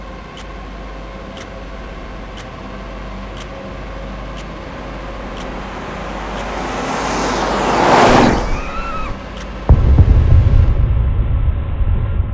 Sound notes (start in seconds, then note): 9.1 screaming